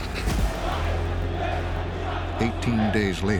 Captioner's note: crowd chanting